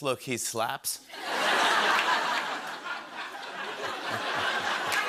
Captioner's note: laughter